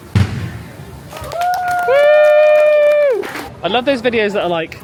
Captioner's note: crowd cheers